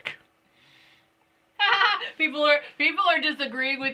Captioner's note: laughing